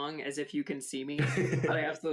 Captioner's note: chuckles softly